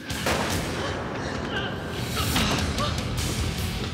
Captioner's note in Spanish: detonación de disparo